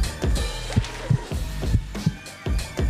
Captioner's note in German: Herzpochen